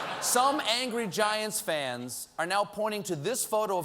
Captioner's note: laughter